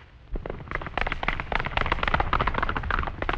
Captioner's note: hooves clattering